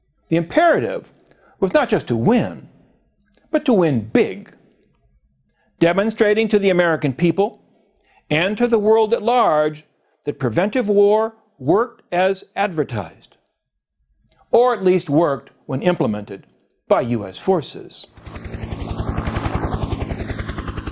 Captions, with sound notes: The imperative was not just to win, but to win big, demonstrating to the American people, and to the world at large, that preventive war worked as advertised. Or at least worked when implemented by US forces. [HELICOPTER ZOOMING AWAY]